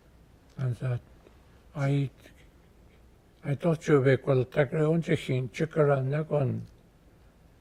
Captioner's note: speaking Gwich'in